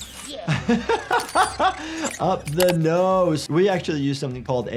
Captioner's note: laughs